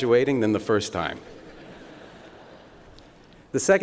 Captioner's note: laughter